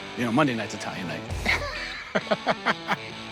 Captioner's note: Rick laughs; rock music plays